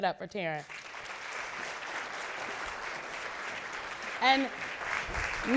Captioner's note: audience clapping